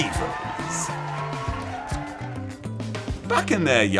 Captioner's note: crowd cheering and clapping